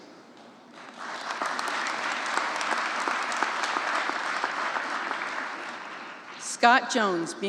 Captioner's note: applause